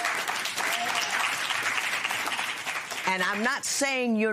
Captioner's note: applause